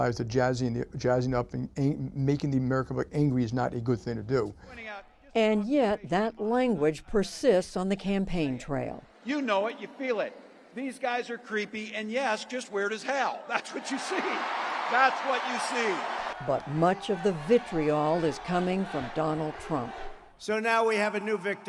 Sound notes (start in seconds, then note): 14.0 applause; 15.0 cheering